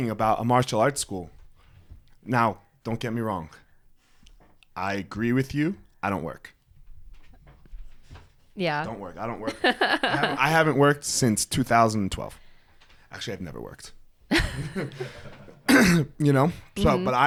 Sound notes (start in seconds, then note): 9.5 laughs; 14.3 both laughing